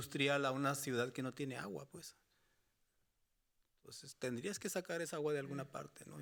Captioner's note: speaking Spanish continues